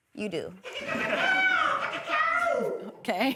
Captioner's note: audience cawing